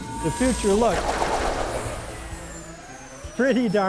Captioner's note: lasers fire